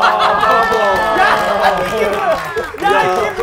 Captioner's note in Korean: 박장대소